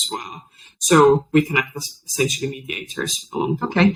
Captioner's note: faintly speaks